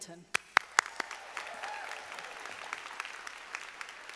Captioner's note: audience applauding